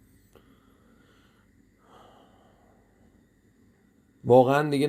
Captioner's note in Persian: صدای آه